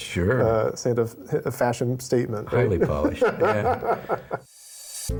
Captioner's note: laughs